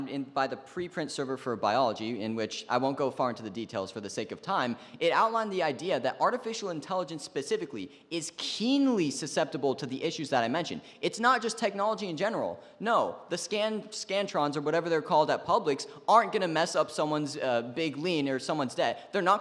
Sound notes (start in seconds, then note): none